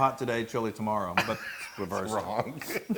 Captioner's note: laugh